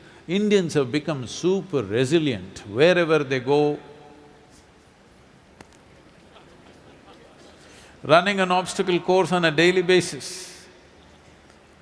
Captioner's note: laughs